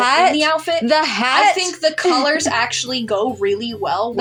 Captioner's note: chuckle